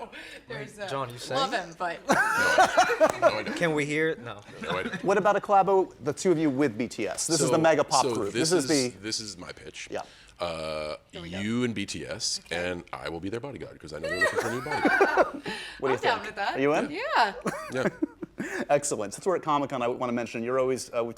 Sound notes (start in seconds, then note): 14.1 laughter